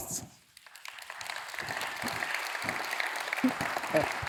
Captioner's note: audience clapping